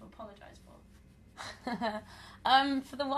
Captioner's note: laughter